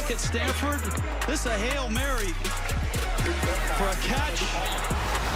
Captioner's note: whistle